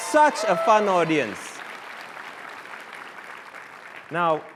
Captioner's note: cheers and applause